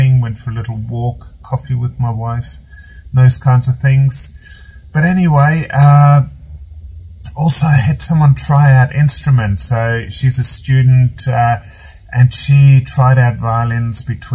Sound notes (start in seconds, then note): none